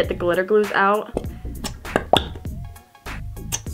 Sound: popping

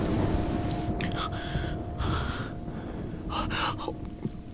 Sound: panting

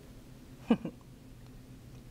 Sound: chuckles

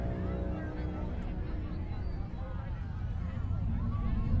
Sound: crowd chattering

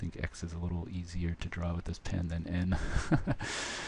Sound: laughing

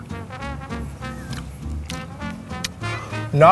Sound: smack smack

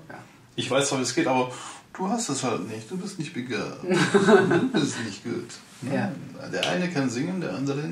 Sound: Russian accent

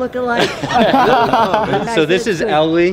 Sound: laughter

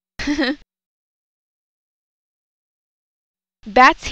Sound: laughing

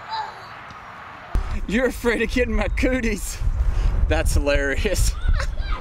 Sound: chuckles

